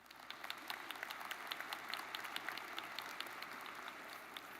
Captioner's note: audience applauds